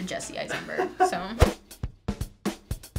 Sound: React laughs

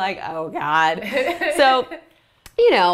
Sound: laugher

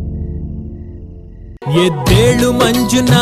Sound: phone rings

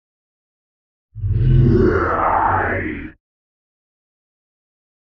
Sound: sci fi horror voice

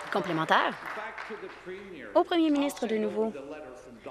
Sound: some Applause

